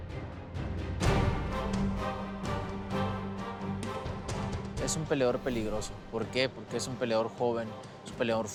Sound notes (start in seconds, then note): 4.8 speaking Spanish